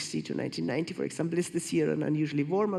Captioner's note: none